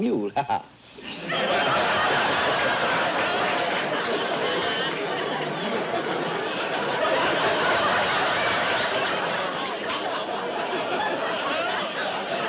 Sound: laughter

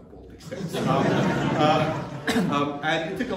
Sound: laughter

